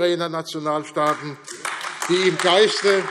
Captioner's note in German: Beifall AfD